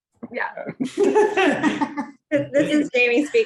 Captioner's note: laughing